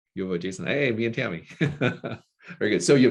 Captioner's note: laughing